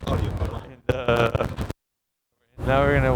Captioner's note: voice crackles